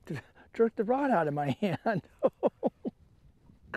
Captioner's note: laughter